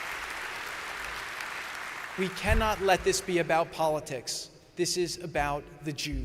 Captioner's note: applause